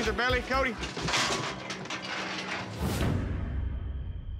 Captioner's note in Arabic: صوت قعقعة المزلقة